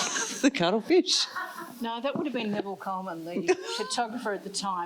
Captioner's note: laughs